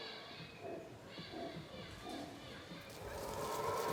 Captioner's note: animals vocalizing